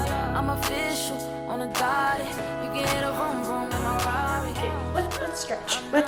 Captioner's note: grunt